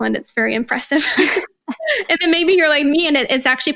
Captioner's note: both laughing